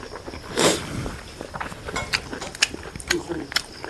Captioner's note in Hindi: नाक से की जाने वाली आवाज़